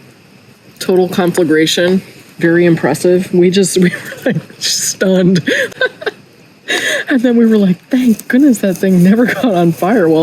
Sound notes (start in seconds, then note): 5.1 laughs